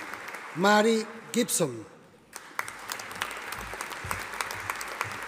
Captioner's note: audience applauding